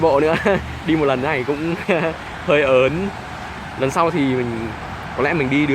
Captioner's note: laughing